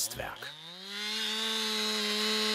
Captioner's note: chainsaw noises